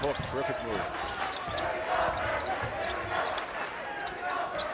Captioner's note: crowd chants